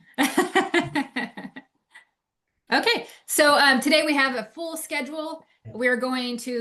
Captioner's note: laughs